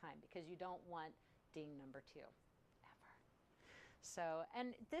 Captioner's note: whisper